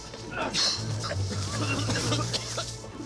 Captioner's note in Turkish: Öksürüyorlar